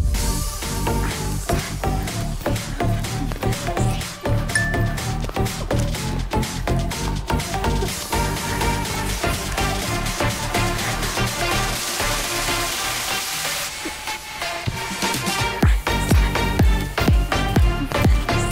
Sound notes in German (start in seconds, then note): 0.2 Hippe Technomusik; 4.5 Helles Klingeln